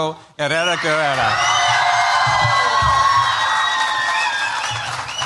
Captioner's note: cheers, applause